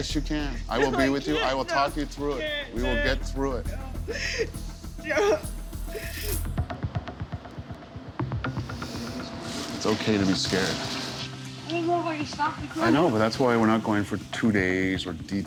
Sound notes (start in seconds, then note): 4.5 sobbing